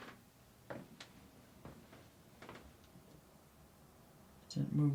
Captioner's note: shoes clopping